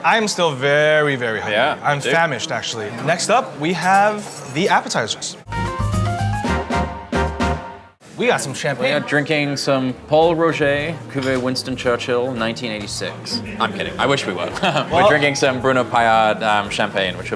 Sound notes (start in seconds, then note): 5.4 upbeat jazz music; 14.4 laughs